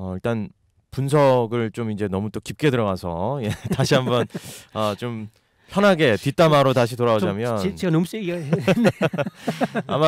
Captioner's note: laughter